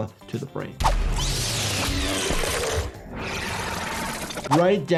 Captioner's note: monster screeching